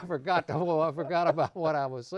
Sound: laughter

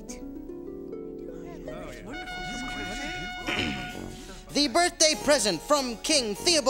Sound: horn blowing

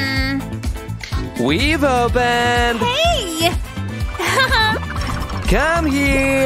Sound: making happy sounds

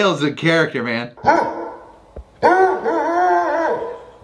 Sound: Dale barking

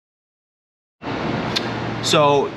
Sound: machine humming

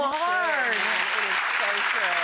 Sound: crowd applauds

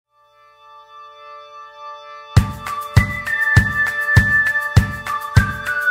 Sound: cheerful music; whistling

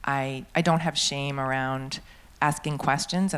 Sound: none

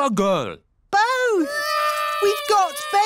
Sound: babies cry

